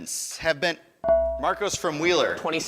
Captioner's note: ding